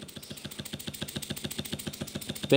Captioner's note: busy stomping